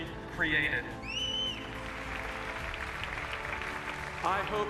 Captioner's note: cheers and applauses